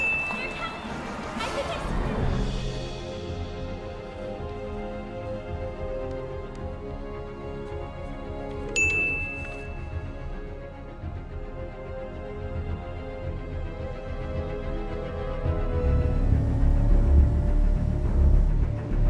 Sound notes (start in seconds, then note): 0.0 dinging; 1.7 suspenseful dramatic music; 8.7 dinging; 15.5 engine roaring